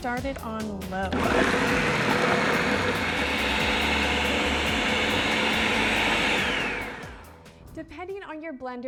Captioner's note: whirring